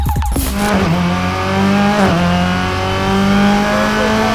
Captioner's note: engine noise